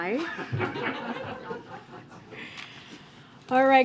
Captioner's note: laughter